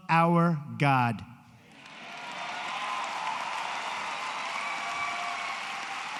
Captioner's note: applause